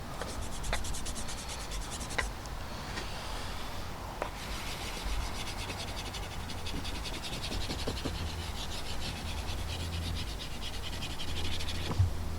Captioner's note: sketching sounds